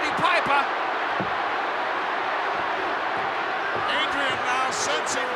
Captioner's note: crowd booing